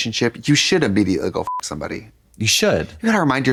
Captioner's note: beep